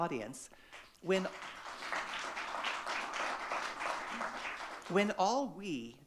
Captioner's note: audience clapping